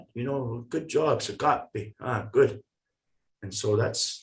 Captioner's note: foreign language